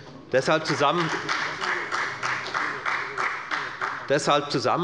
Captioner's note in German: Beifall bei der FDP